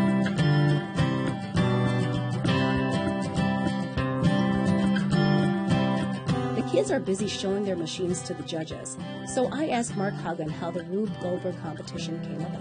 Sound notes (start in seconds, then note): 0.4 guitar music; 8.3 voiceover